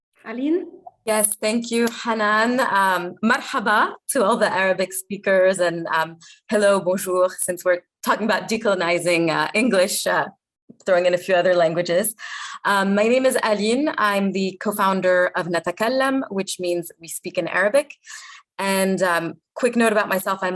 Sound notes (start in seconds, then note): 3.2 speaking arabic; 6.7 speaking french